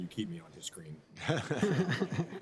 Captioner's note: laughter